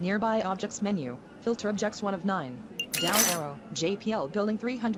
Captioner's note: beeps